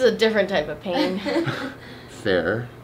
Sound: laughs

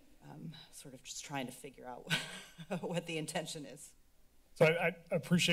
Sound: chuckles

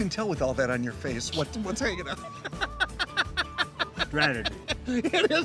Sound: laughs

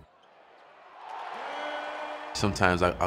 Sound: cheers

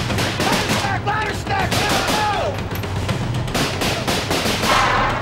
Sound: guns firing; shouting; guns firing

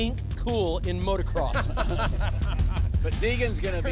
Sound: laughter

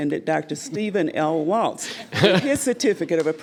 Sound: laughs

